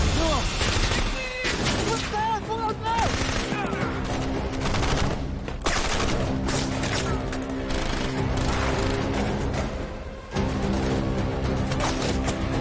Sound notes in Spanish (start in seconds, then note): 2.1 Parcero exclama; 3.9 Disparos